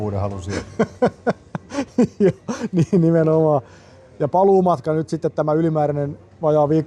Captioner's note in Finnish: naurua